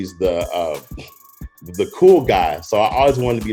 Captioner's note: chuckles